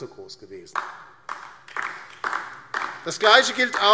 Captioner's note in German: Beifall DIE LINKE